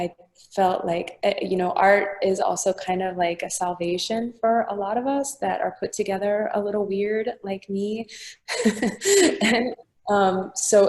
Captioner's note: laughing